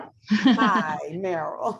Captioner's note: laughs